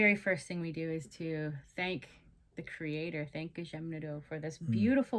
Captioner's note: speaking Indigenous Language